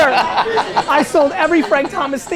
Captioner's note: laughs